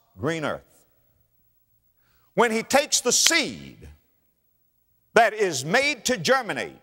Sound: clap

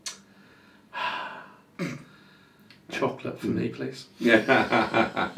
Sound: sighs; laughs

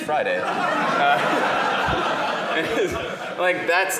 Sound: laughter

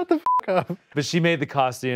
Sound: laughs; beep

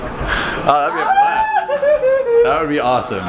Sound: whoop

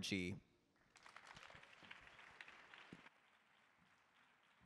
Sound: audience applauds

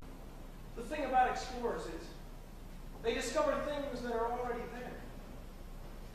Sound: MARVIN, spoken

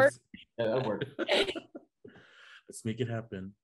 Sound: Hunter and Raffy laugh

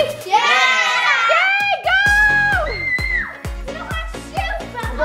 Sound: screams

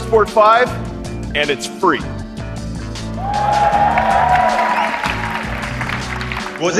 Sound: crowd cheer yeah

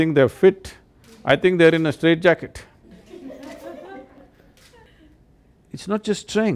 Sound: laughter

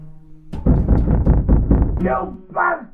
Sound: banging on wall

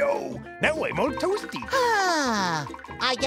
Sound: sighing

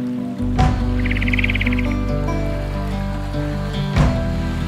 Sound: water sloshing; birds trilling

